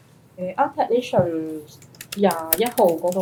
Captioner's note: Cantonese